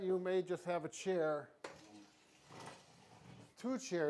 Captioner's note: chair sliding